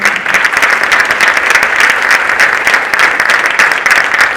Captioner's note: audience applauding